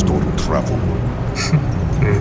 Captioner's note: Smoke snickers